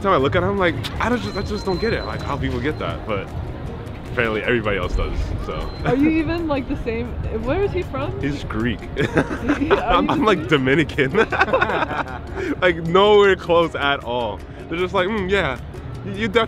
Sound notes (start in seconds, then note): 11.7 person laughing